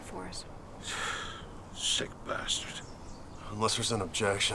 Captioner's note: sighs